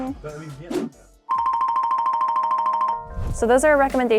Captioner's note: screen whooshing; image dinging